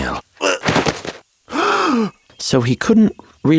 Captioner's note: servant grunting; Centurion gasping